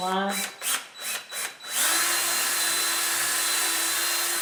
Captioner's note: drill whirring